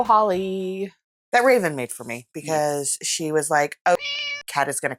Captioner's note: meow